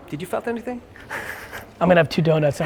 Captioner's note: laughs